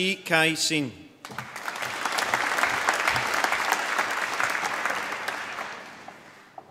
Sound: applause

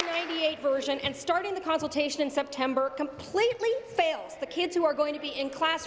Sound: applause

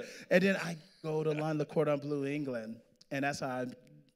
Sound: none

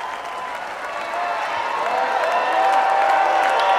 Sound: cheering

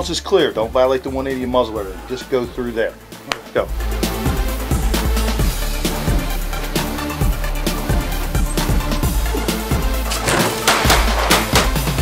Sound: pat on back

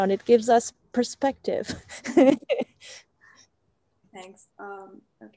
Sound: laughs

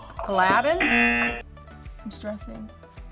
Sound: whispers; buzzer; buzzer rings

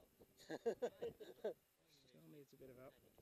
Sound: laughter

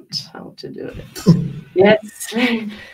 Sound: laughs

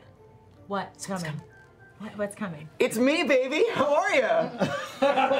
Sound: laughs

